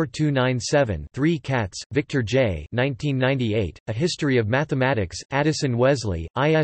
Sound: German

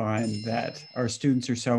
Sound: phone ringing

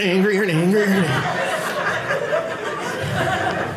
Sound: audience laughing

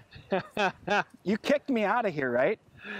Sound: laughter

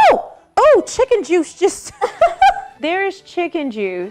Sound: laughs

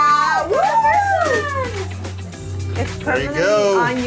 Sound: woman whooping

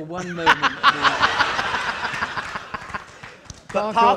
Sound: audience laughing

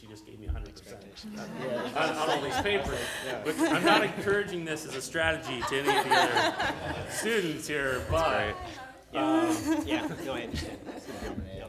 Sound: laughter

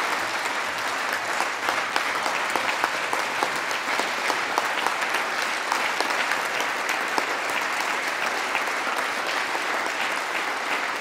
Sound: applause

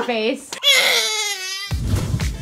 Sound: baby cries; upbeat music

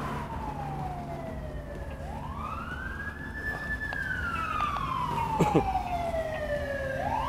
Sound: sirens very loud/close

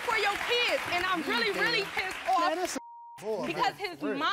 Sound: beeping

